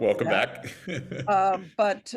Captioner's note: chuckles